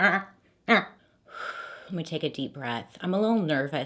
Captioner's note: exhales